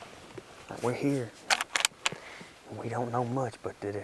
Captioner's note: gun cocks